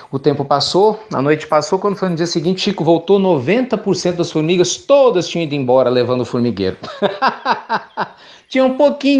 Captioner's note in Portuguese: Risos